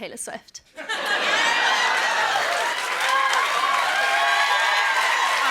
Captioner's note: cheers and applause